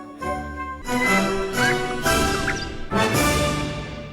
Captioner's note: whistling